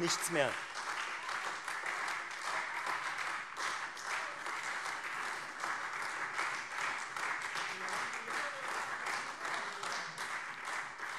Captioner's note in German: Beifall Freie Demokraten, SPD und vereinzelt AfD